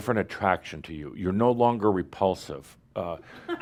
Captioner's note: laughter